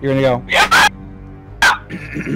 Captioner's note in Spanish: más ruidos infernales